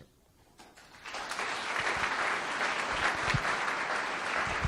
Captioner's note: audience claps